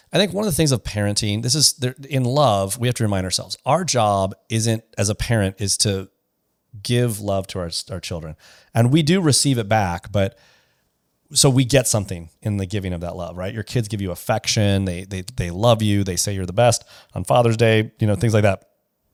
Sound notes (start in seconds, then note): none